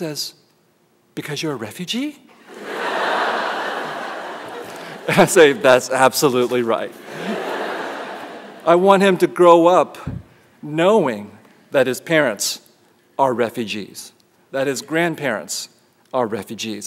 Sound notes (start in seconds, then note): 6.9 laughter